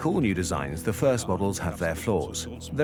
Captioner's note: in German; dubbed in English